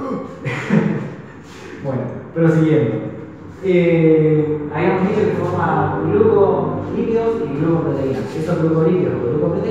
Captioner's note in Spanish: risa